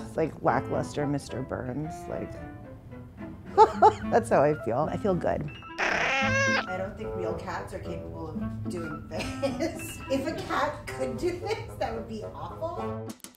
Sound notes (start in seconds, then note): 3.6 laughs; 5.8 meows; 9.3 laughs